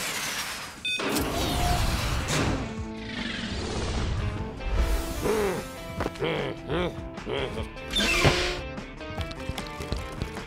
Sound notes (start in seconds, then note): 0.8 beeps; 4.6 growls